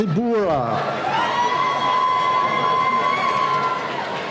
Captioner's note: cheering